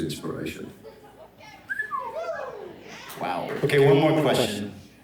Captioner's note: audience chuckling, cheering